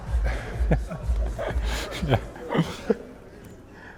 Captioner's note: audience laughing